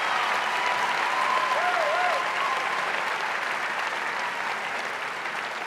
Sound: audience cheering and applauding

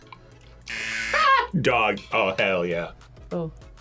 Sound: laughs

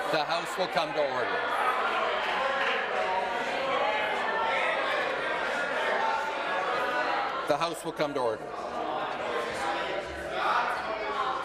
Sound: conversation din

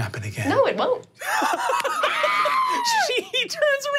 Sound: laughing

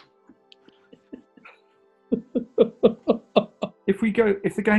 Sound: giggling

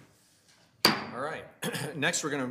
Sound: gavel bangs

